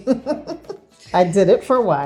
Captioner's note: woman laughing